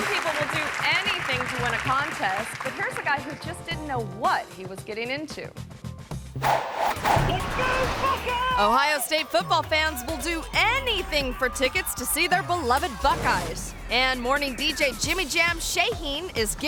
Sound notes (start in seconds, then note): 6.3 logo whooshing